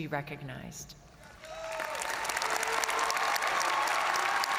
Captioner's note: all applauding